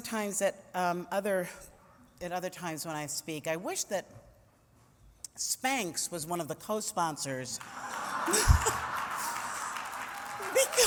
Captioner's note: laughter